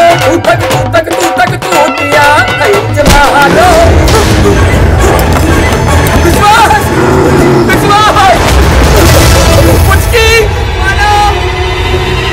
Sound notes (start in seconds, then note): 3.6 Veer grunts